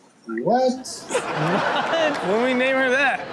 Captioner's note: audience laughs